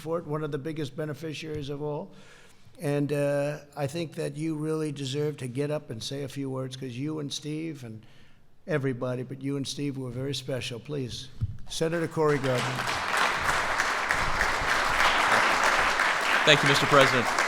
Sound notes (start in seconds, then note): 14.6 applause